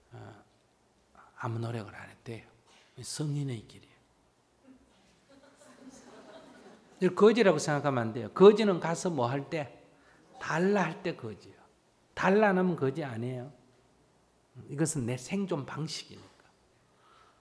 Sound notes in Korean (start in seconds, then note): 5.2 청중웃음